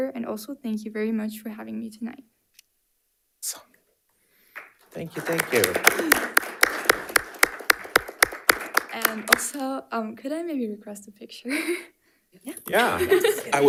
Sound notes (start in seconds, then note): 4.5 panelists applauding; 12.8 chuckles